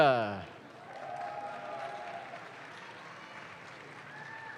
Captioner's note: audience claps